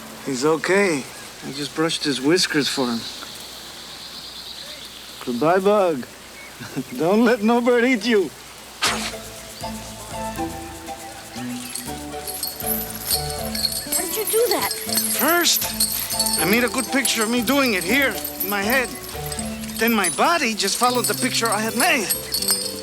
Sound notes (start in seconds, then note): 6.6 chuckles; 8.8 Crecencio blows; 11.8 chain rattles